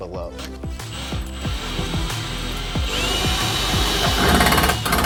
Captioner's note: drill whirring